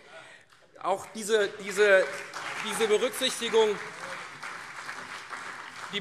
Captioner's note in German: Beifall CDU und SPD